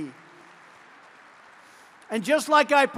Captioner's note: applause